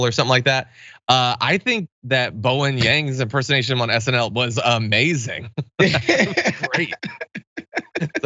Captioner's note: laugh